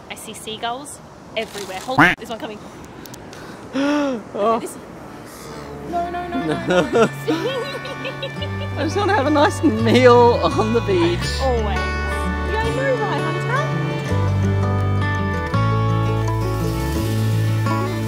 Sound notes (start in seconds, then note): 6.3 chuckling; 15.0 soft guitar music